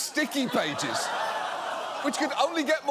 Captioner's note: audience laughs